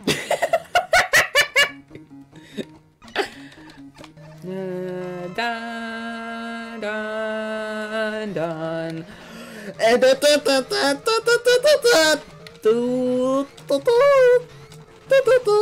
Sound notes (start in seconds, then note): 4.5 humming the song